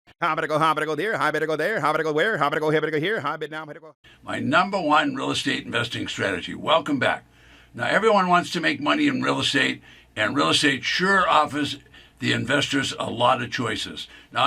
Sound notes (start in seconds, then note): 0.5 auctioneer bid chatting